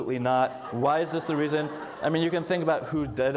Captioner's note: audience laughs